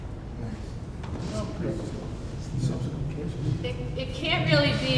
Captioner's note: background chatter